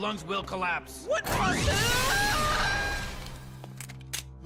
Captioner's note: screaming